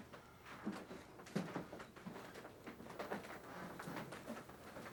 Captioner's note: floor creaking